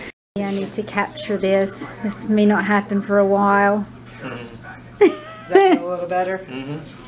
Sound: laugh

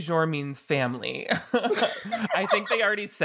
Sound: both laughing

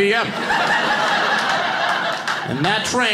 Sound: audience laughing

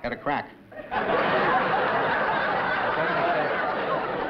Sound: laughter

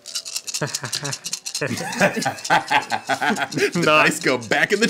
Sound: all laughing

